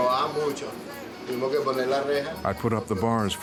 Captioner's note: speaking Spanish